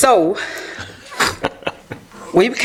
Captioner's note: laughter